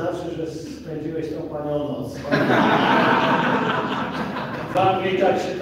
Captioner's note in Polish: Śmiech z sali